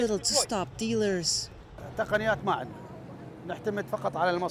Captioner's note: through translator